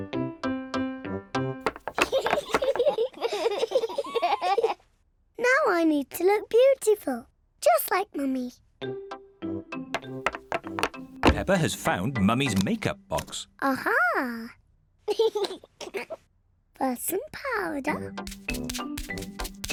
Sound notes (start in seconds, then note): 1.9 both laughing; 14.4 laughs